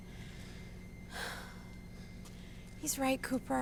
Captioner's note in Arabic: زفير عميق